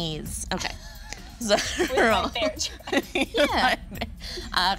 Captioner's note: group laughing